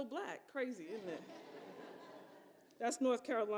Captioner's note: audience laughs